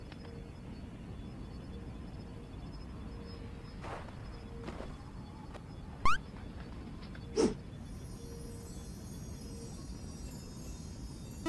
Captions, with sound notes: You look cool though :D *walking/flying* Eep! Uhhhhh who you?